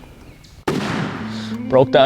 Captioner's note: gun roars